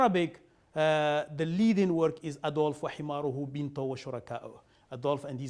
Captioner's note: speaking arabic